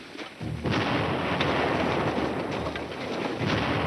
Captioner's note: bomb exploding